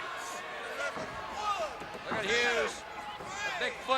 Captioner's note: crowd chatter